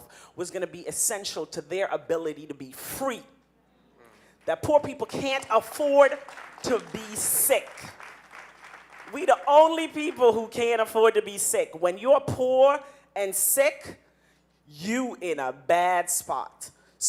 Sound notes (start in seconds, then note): 6.0 audience applauding